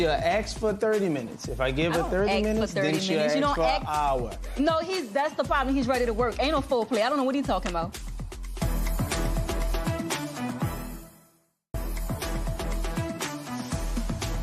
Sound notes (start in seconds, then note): none